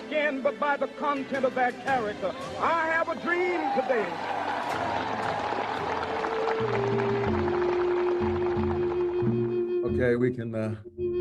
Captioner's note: applause